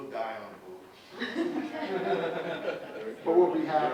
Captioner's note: audience laughs